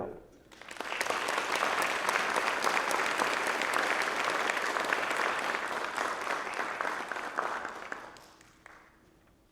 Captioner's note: applause